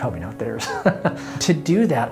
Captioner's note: laughter